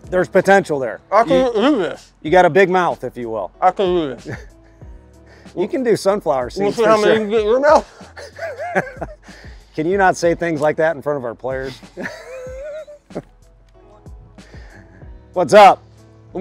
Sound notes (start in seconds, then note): 3.9 chuckling; 7.8 laughs; 11.6 laughing